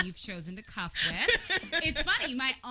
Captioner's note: laughs